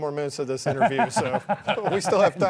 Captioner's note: laughing